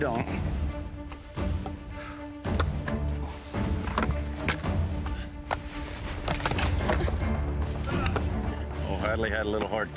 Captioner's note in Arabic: التقطيع